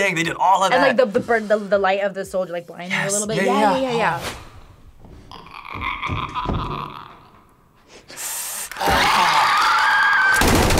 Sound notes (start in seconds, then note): 5.5 clicker croaking; 8.7 screeches